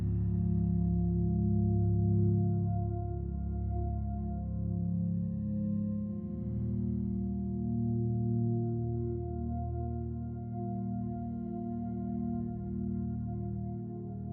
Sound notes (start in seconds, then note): none